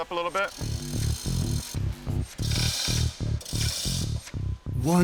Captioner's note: cranking